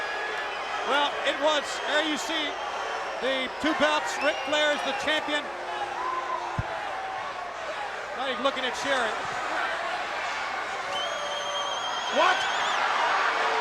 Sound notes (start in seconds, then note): 10.7 crowd whistling; 10.8 crowd cheering